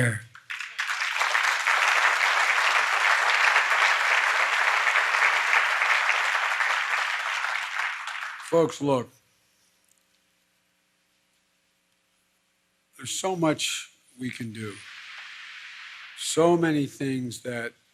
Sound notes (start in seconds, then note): 5.6 applause